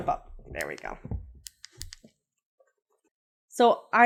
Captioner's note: remote clicks